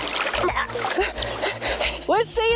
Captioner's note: gasping